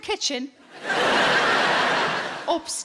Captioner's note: audience laughing